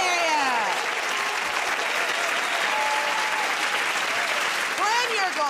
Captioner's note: cheers and applause